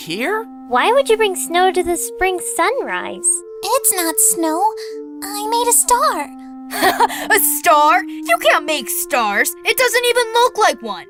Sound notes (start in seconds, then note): 3.9 мысқылдап күледі